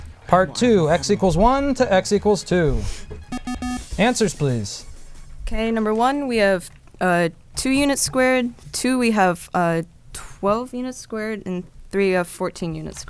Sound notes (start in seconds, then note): 3.3 bell